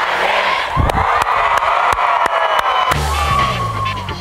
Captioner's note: crowd cheering; funky music